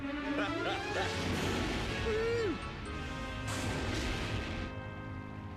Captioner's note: laughs